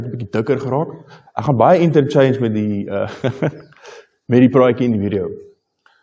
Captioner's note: laughing